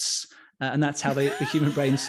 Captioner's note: laughs